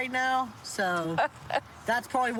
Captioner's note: laughs